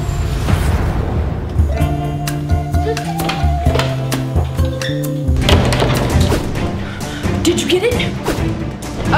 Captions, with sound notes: (door closing) - Did you get it?